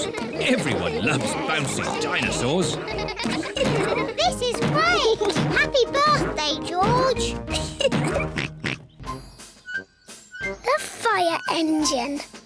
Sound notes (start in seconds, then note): 7.4 laughs; 7.8 oinks